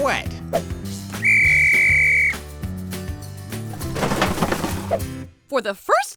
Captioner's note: whistle blowing